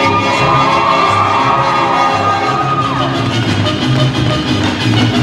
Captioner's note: cheers